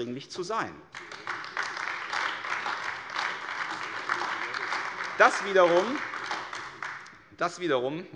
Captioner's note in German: Beifall AfD